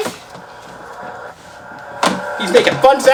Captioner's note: toy engine revving